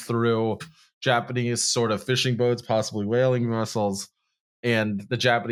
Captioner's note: secretively